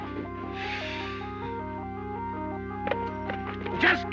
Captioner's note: sighs